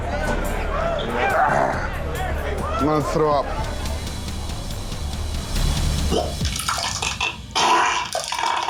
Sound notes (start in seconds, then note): 1.2 groans; 6.5 retches